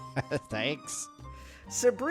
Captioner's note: chuckles